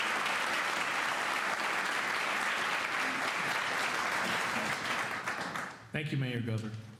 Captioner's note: applause